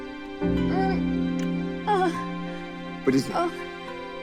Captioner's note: groaning